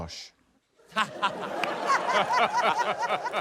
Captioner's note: laughter